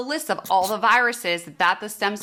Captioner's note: marker scratching